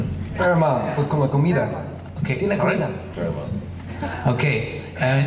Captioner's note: speaking foreign language